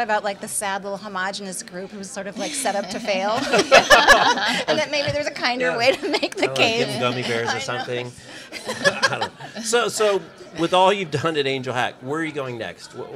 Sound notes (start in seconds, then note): 2.4 laughing; 8.5 laughing